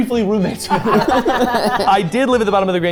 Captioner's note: group laughing